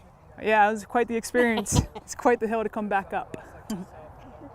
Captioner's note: laugh